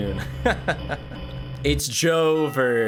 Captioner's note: laughs